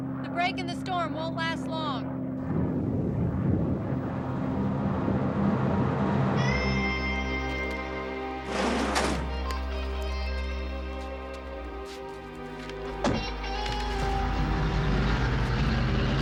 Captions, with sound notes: The break in the storm won't last long. (thunder rolling) (dramatic music)